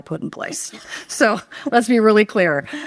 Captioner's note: audience laughing